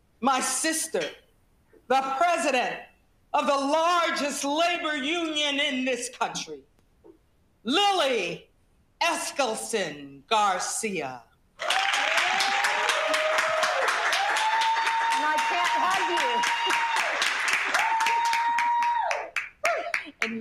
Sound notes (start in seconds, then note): 11.6 audience cheering; 11.6 audience applauding; 18.9 laughs